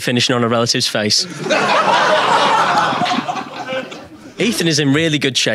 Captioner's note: audience laughing